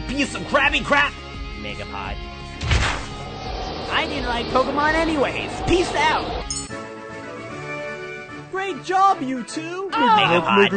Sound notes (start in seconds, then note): 2.6 Trainer Bob thuds; 2.6 air whooshing; 6.3 triumphant music; 6.4 graphics tinkle